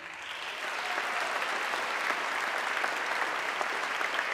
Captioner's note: audience clapping